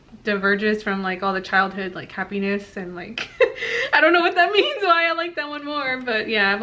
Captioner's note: awkward laugh